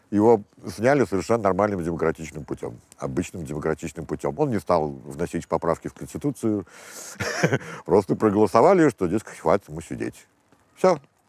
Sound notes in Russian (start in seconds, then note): 7.0 смеется